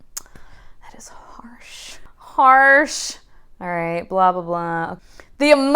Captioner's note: quietly